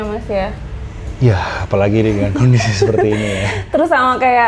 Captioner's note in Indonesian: tertawa